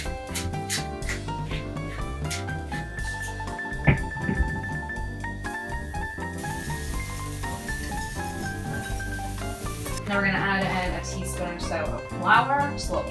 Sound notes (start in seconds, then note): 0.0 grinding; 6.1 sizzling